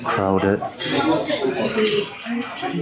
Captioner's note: slurping goodness